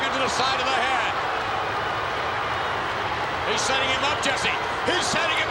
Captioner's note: applause